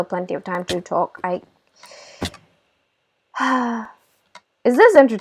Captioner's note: frustrated sigh